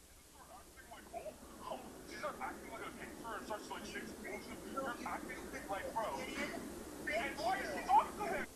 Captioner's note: arguing